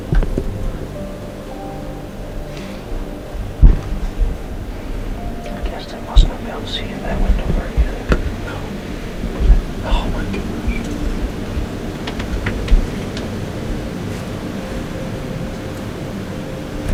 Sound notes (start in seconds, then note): 6.0 whispered words; 10.9 soft piano music